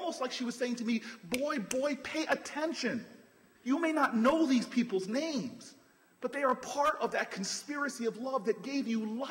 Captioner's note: snaps fingers